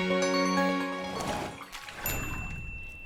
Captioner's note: upbeat instrumental music; water splashing; chime